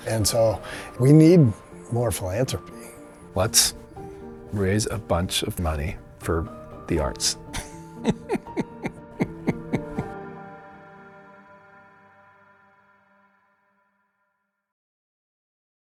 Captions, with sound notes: And so we need more philanthropy. - Let's raise a bunch of money for the arts. (laughs) (gentle enchanting music)